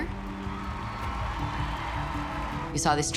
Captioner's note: audience applauding and cheering